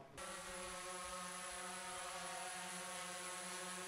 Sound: drone blades wine

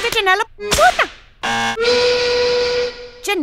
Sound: buzzer buzzes and a steam whistle toots

